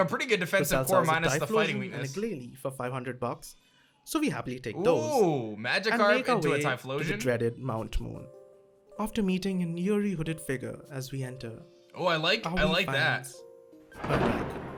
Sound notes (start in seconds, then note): none